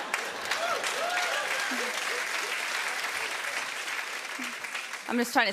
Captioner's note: laughter; cheers and applause